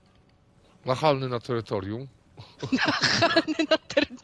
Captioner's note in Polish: śmiech